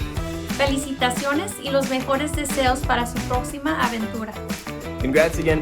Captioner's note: speaking in foreign language